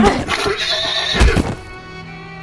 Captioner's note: Spider neighs